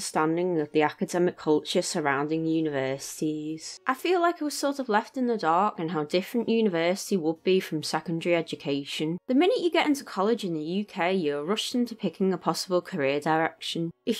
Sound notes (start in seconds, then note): none